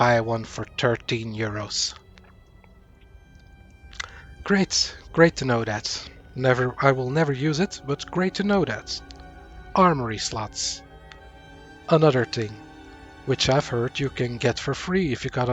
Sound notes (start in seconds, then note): 4.5 sarcasm